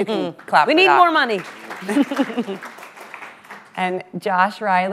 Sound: audience applauds

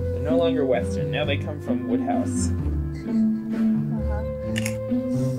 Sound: laughs

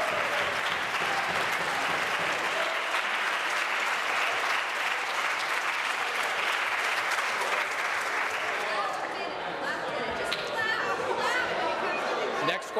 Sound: applause

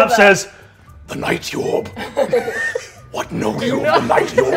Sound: players laughing

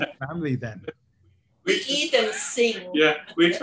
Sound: laugh

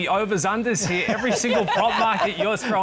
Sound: both laugh

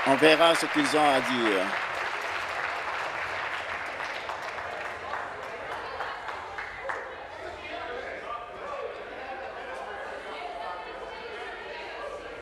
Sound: applause

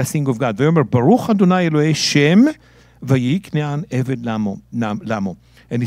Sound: speaking in Hebrew

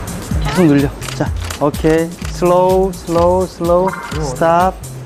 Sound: shutter clicks nonstop

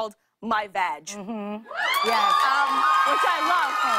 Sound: cheers and applause

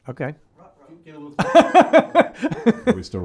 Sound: laughing

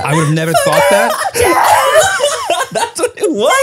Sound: everyone laughs

